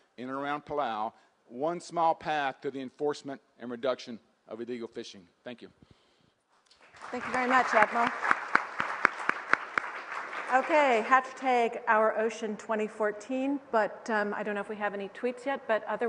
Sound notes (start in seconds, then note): 6.7 applause